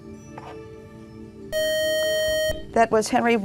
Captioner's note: beeping